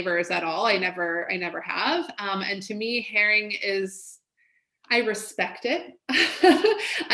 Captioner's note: laughs